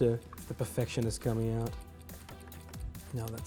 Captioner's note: alarm clock ticking